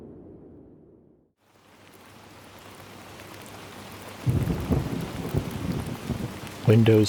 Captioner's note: wind; rain and thunder